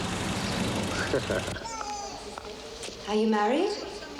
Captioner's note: Ian laughing